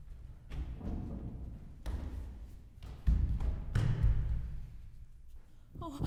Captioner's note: running footsteps